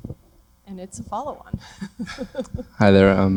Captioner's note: laughter